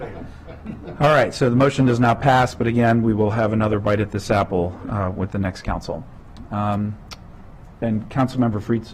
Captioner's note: laughter